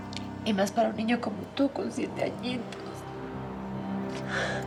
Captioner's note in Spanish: sollozos